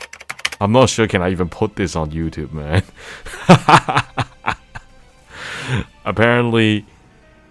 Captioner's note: laughs